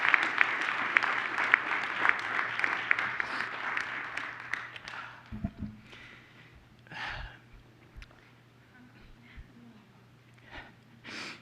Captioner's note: applause